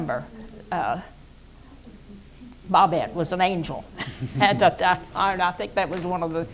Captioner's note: laughs